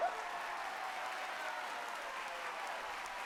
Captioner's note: cheering and applause continue